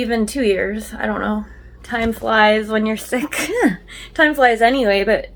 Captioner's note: laughs